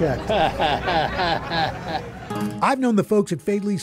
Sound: chuckles

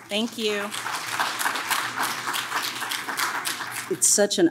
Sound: audience claps

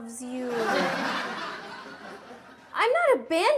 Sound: audience laughs

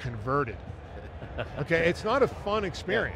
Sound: laughing

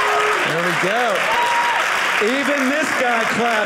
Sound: audience cheering

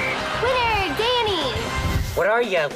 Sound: whistle blows

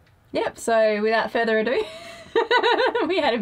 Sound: laughs

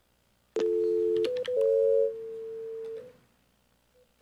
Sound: phone ringtone beeps

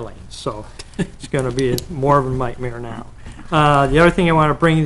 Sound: laughing

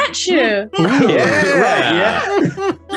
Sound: everyone laughs

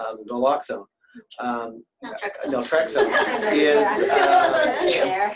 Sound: laughter

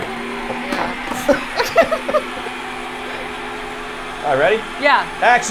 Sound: ice cream maker whirring

